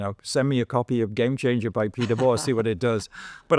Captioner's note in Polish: śmiech